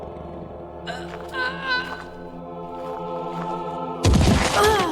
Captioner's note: moans